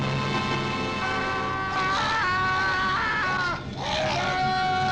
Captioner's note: Larry screaming